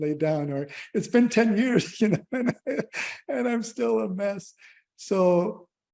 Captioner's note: laughter